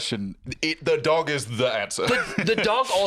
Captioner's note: laughs